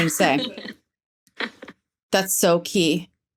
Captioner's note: laughing